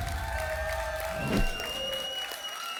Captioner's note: whoosh; applause and cheering cont